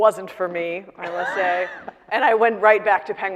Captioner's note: laughing